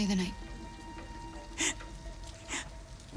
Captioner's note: laugh